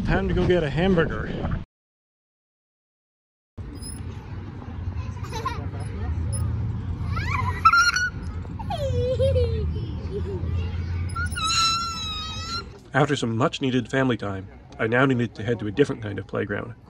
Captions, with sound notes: Time to go get a hamburger! (swings creak) (children laughing) After some much needed family time, I now needed to head to a different kind of playground,